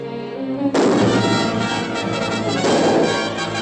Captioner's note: firing